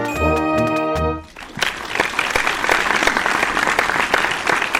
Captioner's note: audience applauds